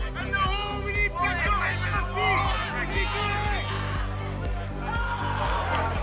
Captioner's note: shouting football instructions